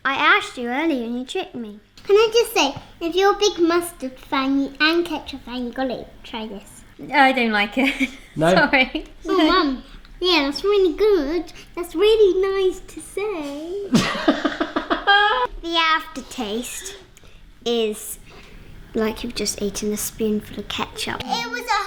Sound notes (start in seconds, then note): 7.8 laughs; 13.9 laughter